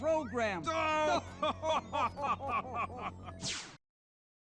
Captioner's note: Statler and Waldorf laugh